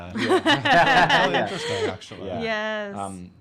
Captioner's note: laughing